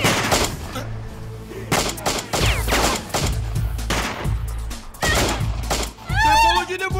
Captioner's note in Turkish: Silah sesleri ve kadın çığlıkları